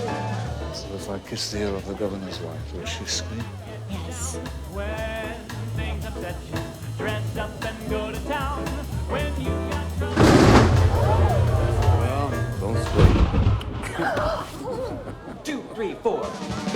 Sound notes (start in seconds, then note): 13.4 music stops, Governor's wife gasps; 14.6 Jean-Pierre laughs